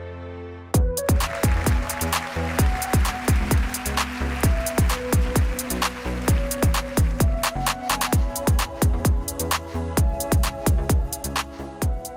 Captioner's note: applause